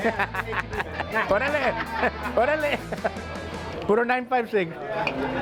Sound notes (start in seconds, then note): 1.6 speaking Spanish